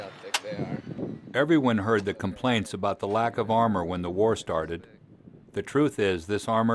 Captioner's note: voiceover